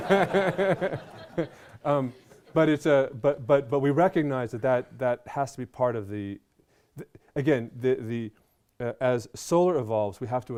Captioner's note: laughter